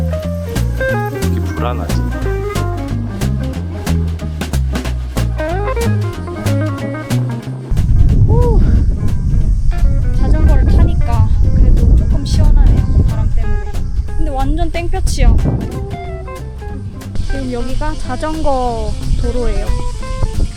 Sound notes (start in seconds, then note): 7.6 Warning: wind noise